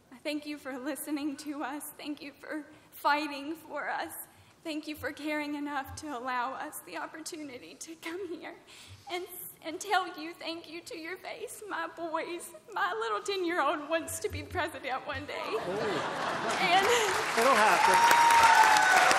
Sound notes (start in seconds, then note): 15.6 laughter and applause